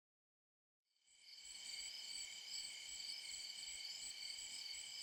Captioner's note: crickets chirping